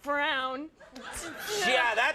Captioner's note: crowd laughs